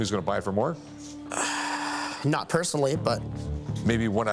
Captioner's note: sighs deply